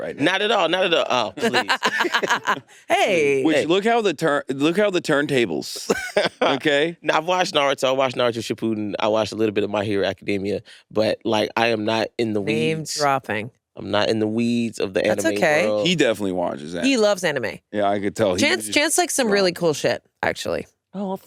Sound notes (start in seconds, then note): 2.0 all laughing; 5.8 laughs